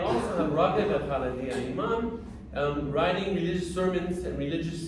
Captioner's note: speaking arabic